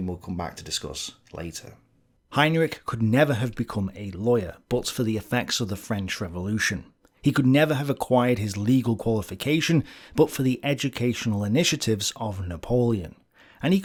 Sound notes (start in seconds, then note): 6.1 French